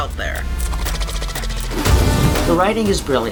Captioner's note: creature hisses